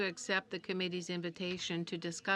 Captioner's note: speaking French